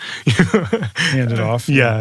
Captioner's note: laugh